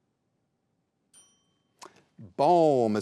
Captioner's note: bell rings